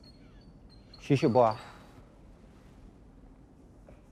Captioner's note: speaking in French